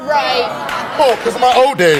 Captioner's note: audience boos